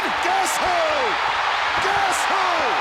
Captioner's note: audience cheers